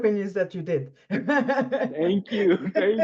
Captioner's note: laughs